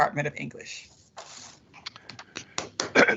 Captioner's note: applause